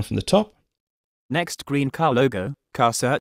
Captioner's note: Siri voice